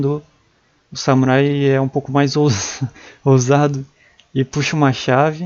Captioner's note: laugh